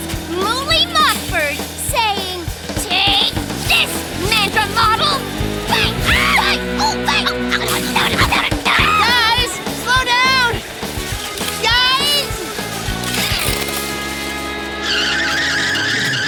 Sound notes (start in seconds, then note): 7.3 shouting